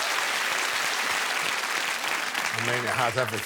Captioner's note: applause